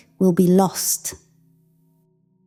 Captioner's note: silence